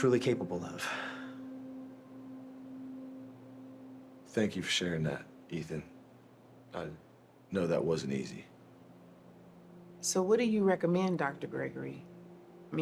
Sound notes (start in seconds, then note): none